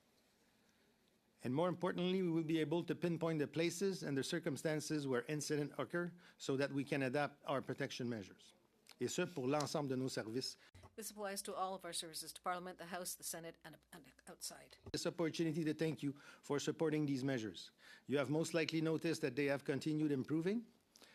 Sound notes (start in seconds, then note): 14.0 speaking French